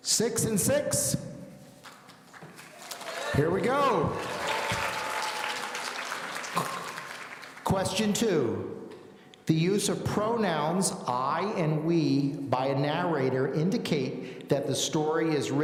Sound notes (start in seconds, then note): 4.6 audience applauding